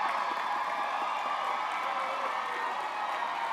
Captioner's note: applause